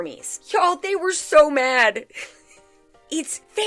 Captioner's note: giggles